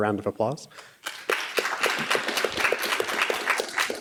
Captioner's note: crowd applause